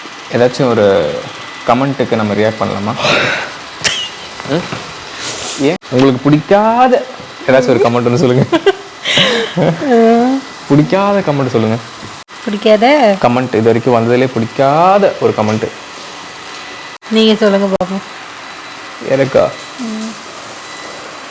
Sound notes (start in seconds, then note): 3.8 laughs; 7.5 both laughs; 7.6 laughs